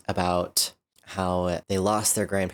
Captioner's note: none